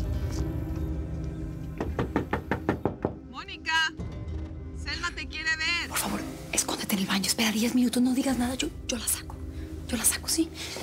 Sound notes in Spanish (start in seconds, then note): 1.8 toques en la puerta